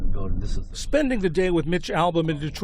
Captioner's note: voice-over